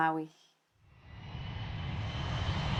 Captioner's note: airplane whirring